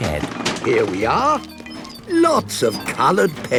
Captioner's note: bangs and rattles